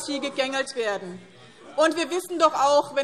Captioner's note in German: Widerspruch Freie Demokraten